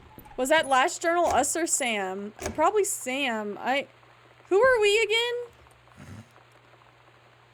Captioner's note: snorts